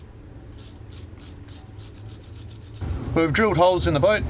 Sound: sanding

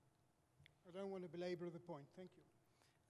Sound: voiceover

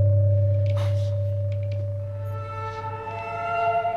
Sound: feet shuffling; discordant music

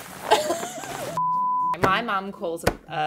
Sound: beep

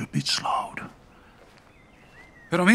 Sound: footsteps approaching

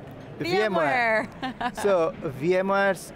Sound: laughing

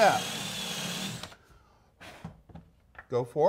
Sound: blows

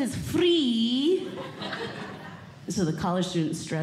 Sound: audience Laughing

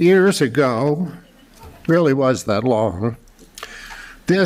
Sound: laughter

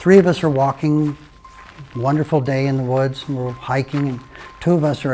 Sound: sound of footsteps on a forest trail

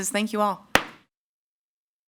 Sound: gavel thuds

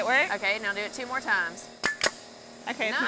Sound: nail gun clicks

